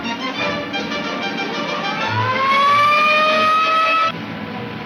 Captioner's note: police siren blares